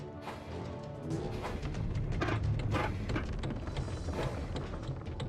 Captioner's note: tracks Creaking